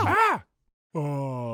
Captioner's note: green monster crying out in surprise